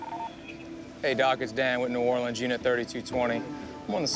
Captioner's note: on phone